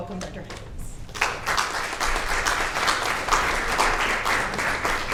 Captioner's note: audience applauds